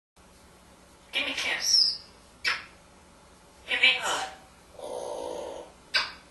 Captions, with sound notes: Gimme a kiss! [smooch] Gimme a hug! Awwwww ... [smooch]